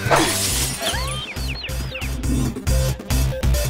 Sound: glass smashes; electronic music

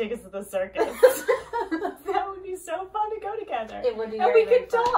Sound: laughs

